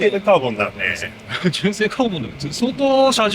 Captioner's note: laughs